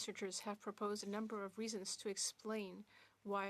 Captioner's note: speaking French